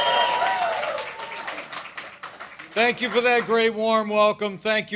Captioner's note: applause